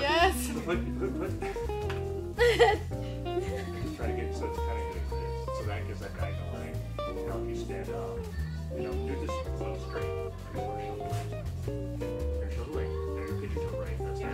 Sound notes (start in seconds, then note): 2.3 woman laughing; 6.5 faintly speaking